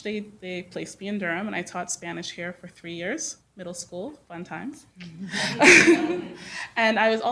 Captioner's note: laughter